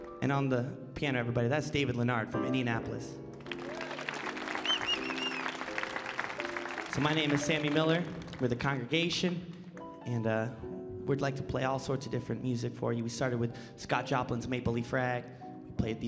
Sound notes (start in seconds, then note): 3.3 audience applauding